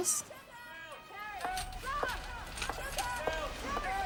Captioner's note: staff shouting